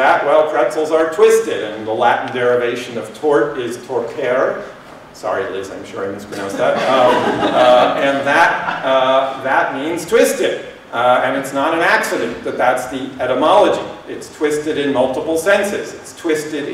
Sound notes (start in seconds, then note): 6.3 laughter